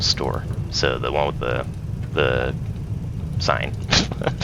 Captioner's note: laughs